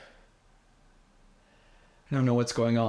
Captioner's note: heavy breathing